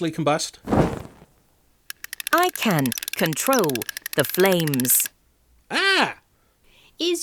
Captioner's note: Snake speaking via Music Box